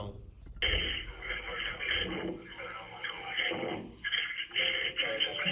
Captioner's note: record mumbling and panting